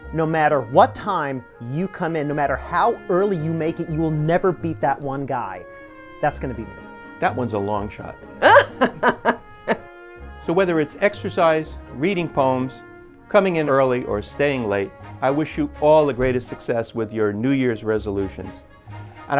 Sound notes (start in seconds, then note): 8.4 laughing